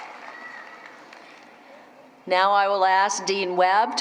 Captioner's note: applause